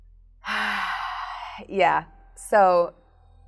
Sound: sighs

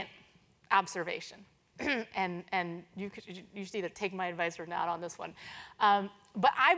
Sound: cough

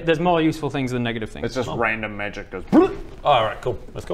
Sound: blllrrrp!

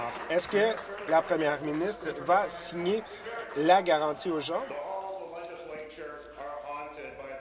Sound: applause

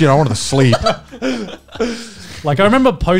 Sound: laughs

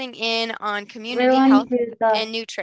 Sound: faintly speaking

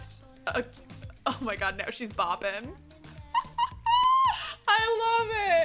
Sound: laughs

